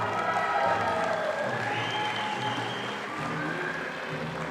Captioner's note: audience applauding